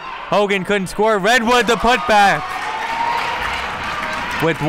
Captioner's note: crowd clapping